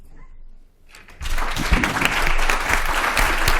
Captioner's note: applause